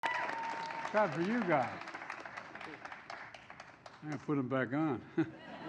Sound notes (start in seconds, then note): 0.0 applause